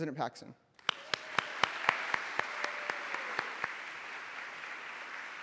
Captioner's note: applause